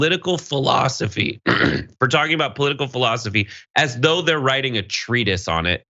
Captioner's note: cough